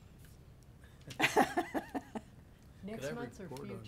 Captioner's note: laughs